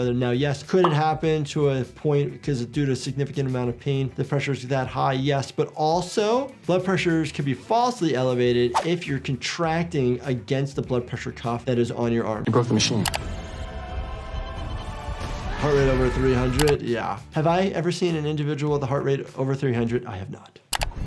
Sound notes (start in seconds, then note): 12.5 dramatic music; 15.5 Logan yells